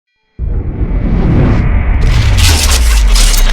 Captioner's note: loud rumbling; metal rattling